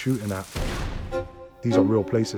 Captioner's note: cannon fires